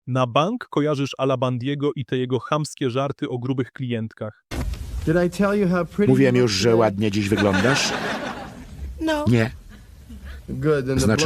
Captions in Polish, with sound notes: Na bank kojarzysz Alabandiego i te jego chamskie żarty o grubych klientkach. Mówiłem już, że ładnie dziś wyglądasz. [śmiech] No nie